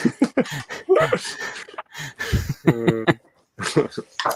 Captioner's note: laughs